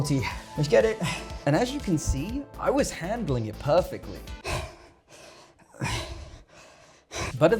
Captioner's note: sounds of death